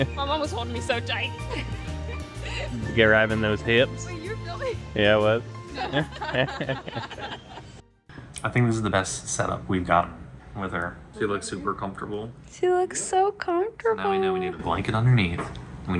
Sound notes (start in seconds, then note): 1.4 laughing; 5.7 laughing; 5.8 everyone laughing